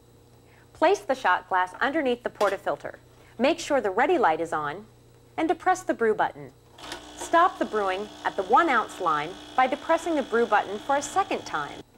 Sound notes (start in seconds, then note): 6.7 light buzzing sound from machine